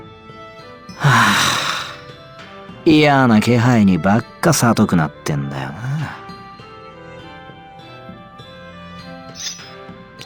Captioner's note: sigh